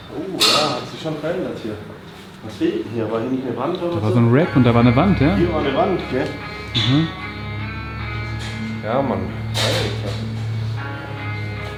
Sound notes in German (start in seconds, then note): 9.6 schnauben